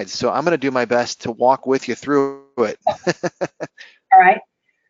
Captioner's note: laughing